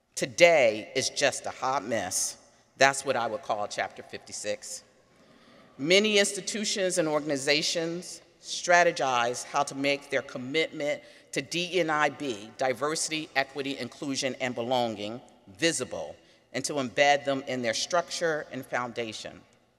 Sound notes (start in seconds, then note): none